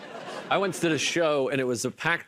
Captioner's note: laughter